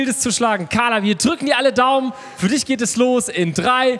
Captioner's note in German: none